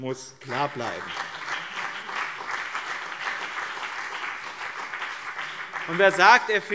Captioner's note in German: Beifall BÜNDNIS 90/DIE GRÜNEN und CDU